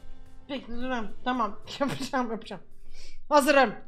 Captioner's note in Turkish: gülerek